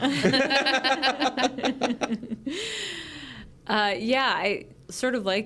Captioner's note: group laughs